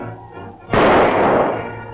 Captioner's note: gunshot